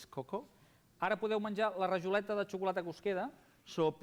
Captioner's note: non-english speech